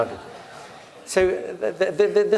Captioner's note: laugh